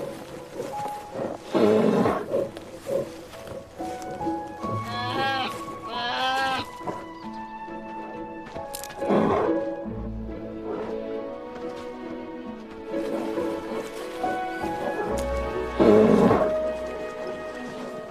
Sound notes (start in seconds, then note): 10.1 bears chuffing and low growls; 15.7 low growls